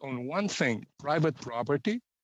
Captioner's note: speaking Alternate Language